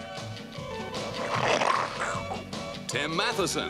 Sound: slurping

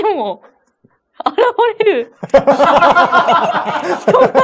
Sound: laughs

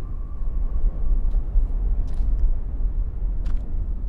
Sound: wind bloding

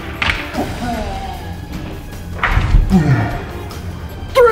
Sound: clatter; loud groan

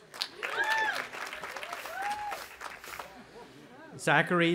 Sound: audience applauding and cheering

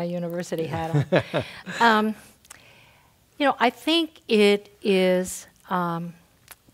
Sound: laugh

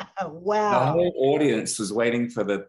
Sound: laughs

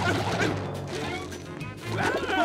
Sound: grunting; groaning

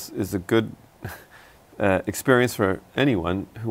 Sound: laughs

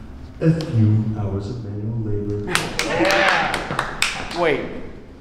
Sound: Pottsfield residents clap

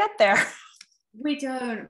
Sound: chuckle

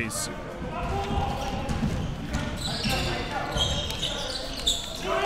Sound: crowd cheering

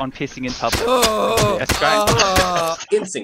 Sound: stabbing and screaming sounds

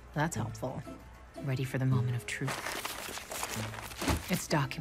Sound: papers shuffling

